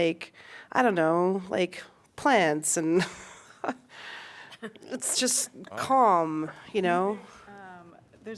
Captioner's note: laughter